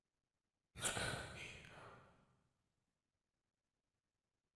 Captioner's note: gasp